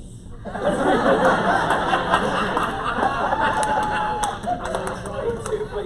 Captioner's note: laughter